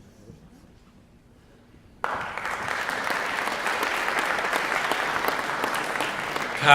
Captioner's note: applause